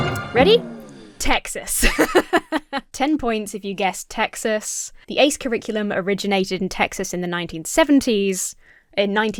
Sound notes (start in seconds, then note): 0.0 showtune music; 1.7 laughs